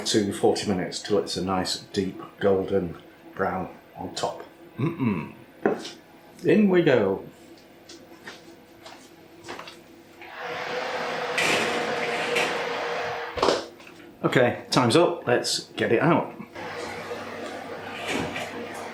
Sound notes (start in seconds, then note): 10.2 oven roaring